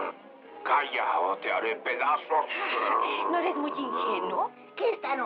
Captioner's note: scoffs